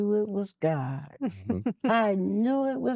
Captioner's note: giggling